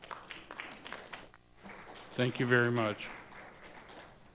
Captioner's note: audience applauding